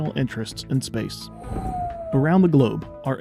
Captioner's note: aircraft noise